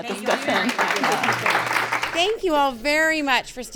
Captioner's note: audience clapping